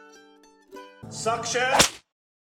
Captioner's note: hwip